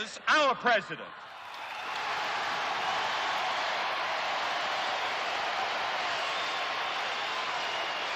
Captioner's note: cheers and applause